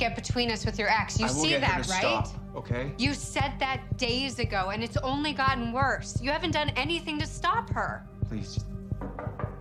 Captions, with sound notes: You see that, right?t? - I will get her to stop, okay? - You said thahat days ago and it's only gotten worse. You haven't done anything to stop her. - Please... (knocking)